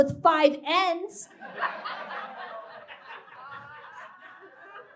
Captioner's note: laughter and groans from audience